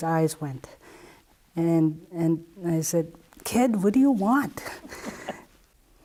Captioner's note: laughs